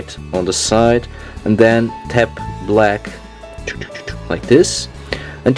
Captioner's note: tchu tchu tchu tchu